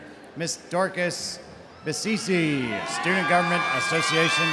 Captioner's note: audience cheering